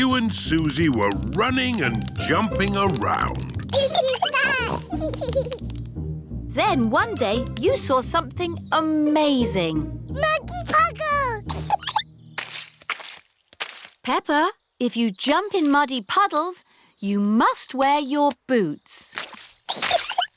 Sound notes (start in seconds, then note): 3.7 both giggling; 11.4 giggles; 20.1 giggles and snorts